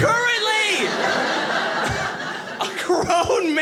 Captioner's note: audience laughing